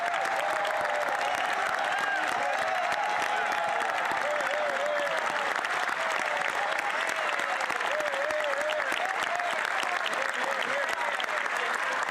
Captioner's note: cheers & Applause